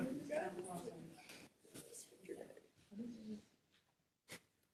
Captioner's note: council chattering